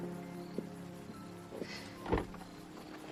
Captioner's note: sighing